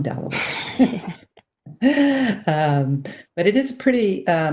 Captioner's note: both chuckle